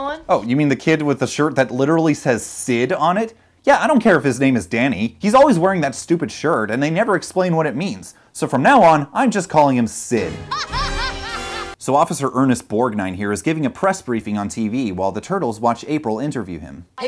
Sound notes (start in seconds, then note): 10.3 maniacal evil laugter